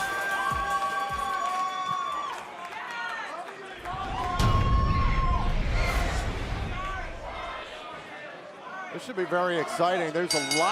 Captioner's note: cheers and applause